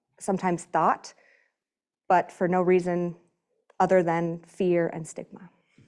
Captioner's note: none